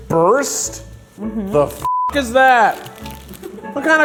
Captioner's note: beep